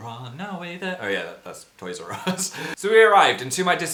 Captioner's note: chuckles